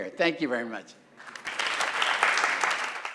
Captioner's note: applause